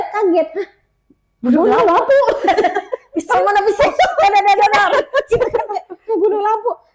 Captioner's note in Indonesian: tertawa